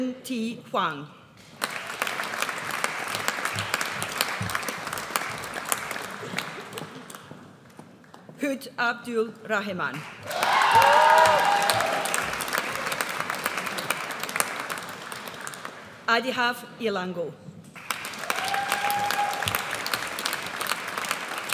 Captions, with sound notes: Chinh Thi Hoang. (AUDIENCE APPLAUDS) Hood Abdul Rahiman. (AUDIENCE CHEERS) Aadhav Ilango. (AUDIENCE APPLAUDS)